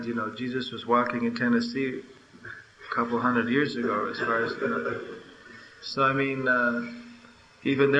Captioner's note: laughter